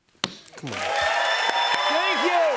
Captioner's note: cheers and applause